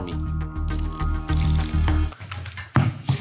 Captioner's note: light music; graphic blipping; ball thumps